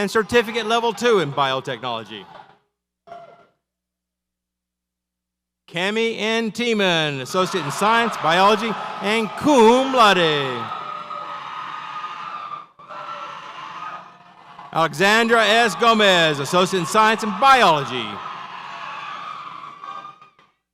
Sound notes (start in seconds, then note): 10.5 audience cheers